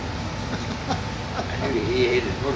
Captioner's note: laughing